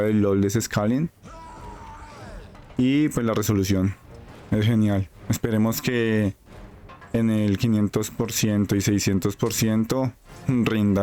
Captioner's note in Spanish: gemido